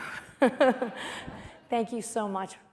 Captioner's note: laughter